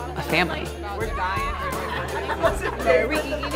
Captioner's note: excited chatter